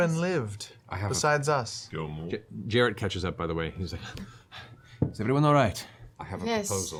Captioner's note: panting